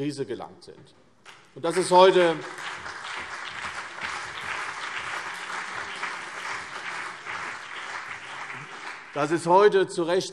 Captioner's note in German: Beifall CDU und BÜNDNIS 90/DIE GRÜNEN